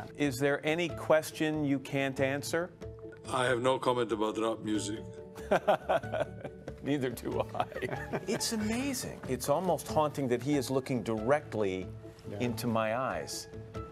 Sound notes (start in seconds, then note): 7.4 laughs